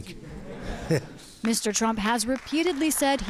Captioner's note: applause